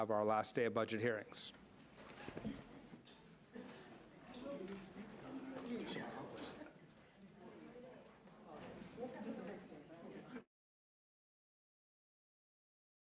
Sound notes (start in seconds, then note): 5.6 murmuring